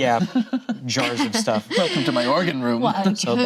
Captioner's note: laughing